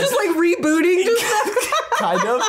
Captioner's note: laughs